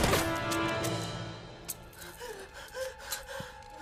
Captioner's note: gun clicking; Nikita gasping